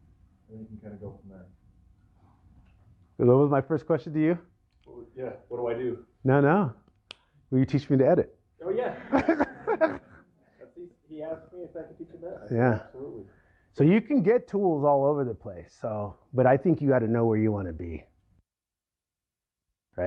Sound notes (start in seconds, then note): 8.7 laughter